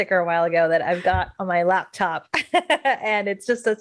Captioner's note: laughs